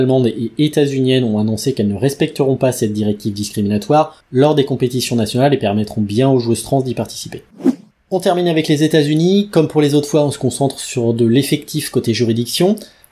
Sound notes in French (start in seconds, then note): 7.5 Son de transition